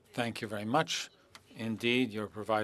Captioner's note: speaking French